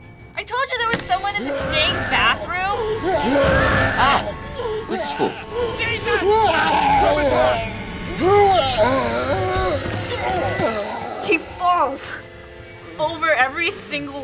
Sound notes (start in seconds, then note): 1.4 zombie growling; 7.6 zombie muttering